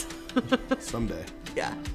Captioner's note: laughing